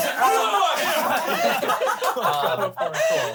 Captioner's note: speaking drowned out by laughing